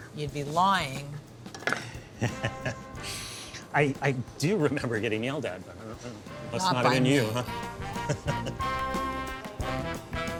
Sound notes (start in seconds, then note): 2.2 chuckles; 7.8 chuckles